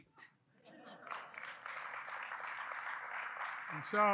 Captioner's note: laughter and applause